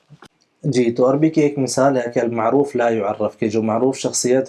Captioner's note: Arabic